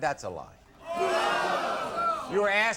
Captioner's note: audience boo's